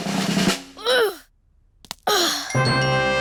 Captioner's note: drum roll; groans